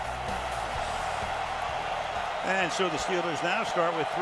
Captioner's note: cheering